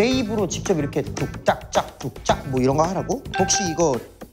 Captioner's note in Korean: 비트박스